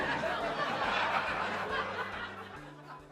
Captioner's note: laughing